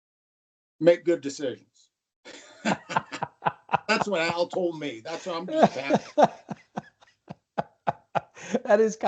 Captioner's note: laughter